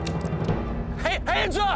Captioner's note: guns cocked